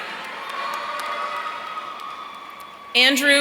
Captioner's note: audience cheering